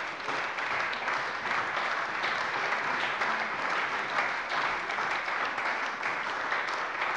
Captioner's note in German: Lebhafter Beifall bei der CDU